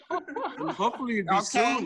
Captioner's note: laughs